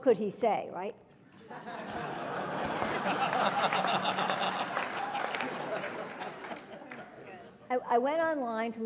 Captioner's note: laugh